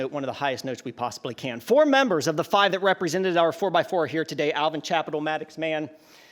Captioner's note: none